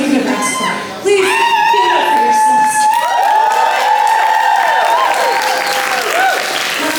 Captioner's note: cheers